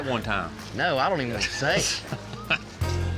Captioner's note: laughs